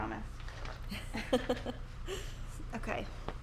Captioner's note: laughs